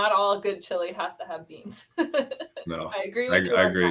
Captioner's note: laughter